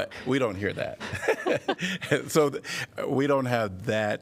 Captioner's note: laughter